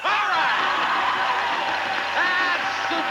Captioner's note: audience applauding